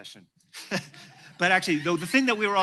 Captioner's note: laughter